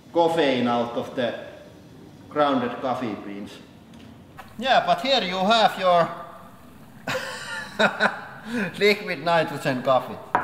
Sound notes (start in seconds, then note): 6.8 laughs